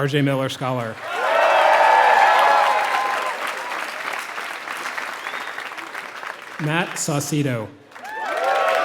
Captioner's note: applause